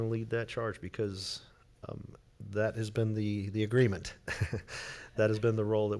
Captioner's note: chuckling